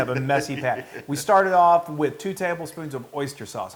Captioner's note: laugh